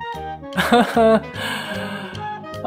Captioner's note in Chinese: 苦笑